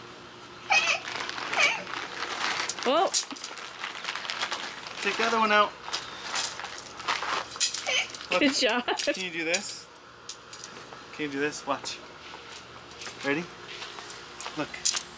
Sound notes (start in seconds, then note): 0.7 whining